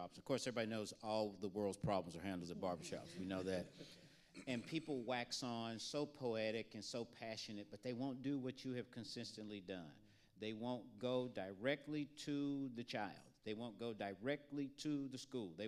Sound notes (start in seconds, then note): 2.3 panelists laughing